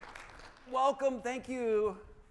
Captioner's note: audience applauding